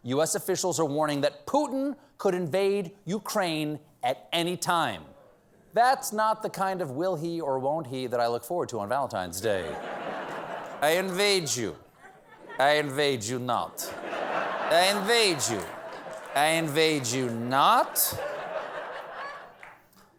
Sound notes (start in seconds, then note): 8.8 as putin